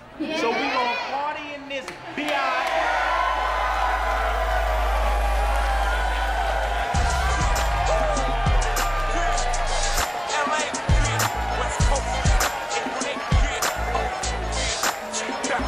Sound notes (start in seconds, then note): 2.5 audience applauding; 6.8 upbeat music